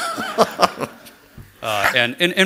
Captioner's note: laughter